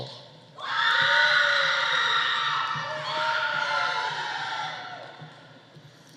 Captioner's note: audience cheering; audience applauding